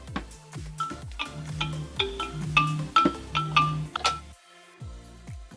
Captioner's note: upbeat music; phone alarm ringing